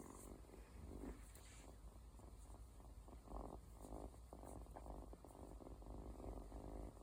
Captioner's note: her first purring!